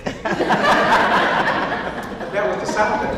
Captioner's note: audience laughs